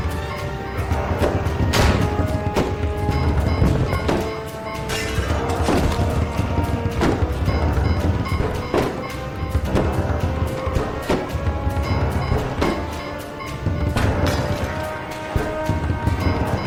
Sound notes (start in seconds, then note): 1.6 gunshot popping; 7.6 zombies banging